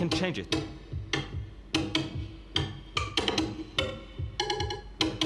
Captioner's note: toy beating